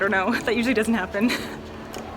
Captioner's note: laughter